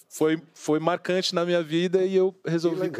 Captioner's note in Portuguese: risos